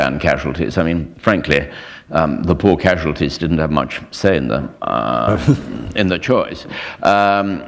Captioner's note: chuckle